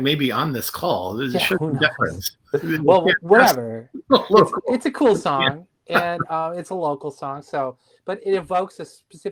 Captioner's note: laughter